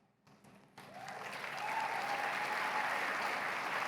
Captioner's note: applause